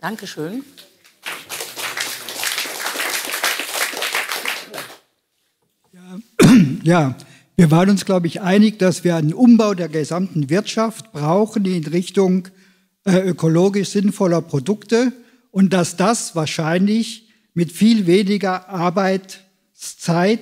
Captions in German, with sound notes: Dankeschön ! (Applaus) Ja, wir waren uns, glaube ich, einig, dass wir den Umbau der gesamten Wirtschaft brauchen, in Richtung ökologisch sinnvoller Produkte, und dass das wahrscheinlich mit viel weniger Arbeitszeit